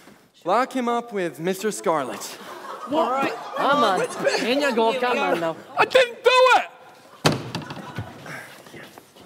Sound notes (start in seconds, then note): 7.2 door slams shut